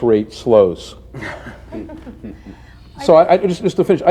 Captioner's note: laughter